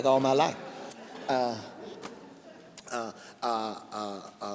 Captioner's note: laughing